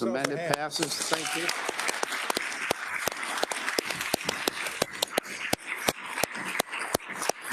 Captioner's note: attendees applauding